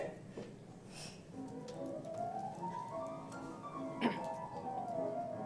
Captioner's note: laugh